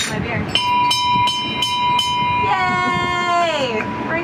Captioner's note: ship bell rings